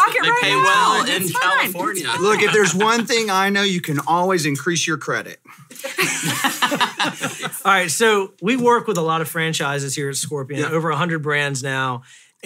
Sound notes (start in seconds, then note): 5.8 everyone laughs